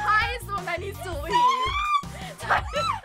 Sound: shrieks

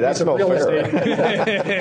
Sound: laughter

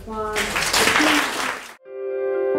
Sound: audience applauding; dramatic music playing

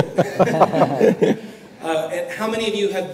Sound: laughter

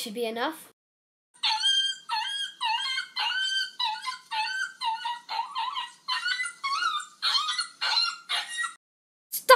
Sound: creature whimpers

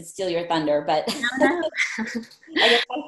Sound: laughs

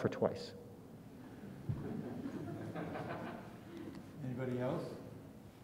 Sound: audience laughs

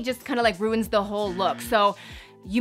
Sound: buzzing

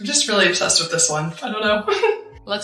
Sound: laughs

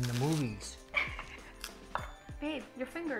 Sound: laughing

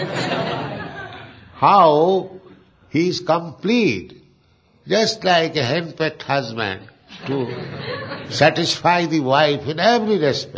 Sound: laughter

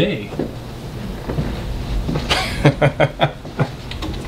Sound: Danny laughs

